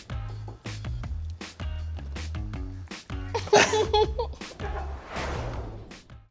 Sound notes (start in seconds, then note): 0.0 soft, upbeat music; 3.3 laughing